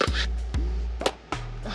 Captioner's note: bubble gum pops